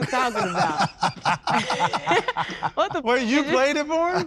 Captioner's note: all laugh